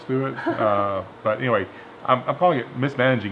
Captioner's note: laughs